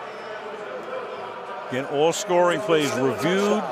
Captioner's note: pa announcement